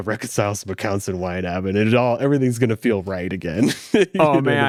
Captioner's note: laughs